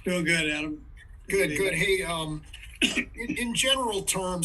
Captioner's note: cough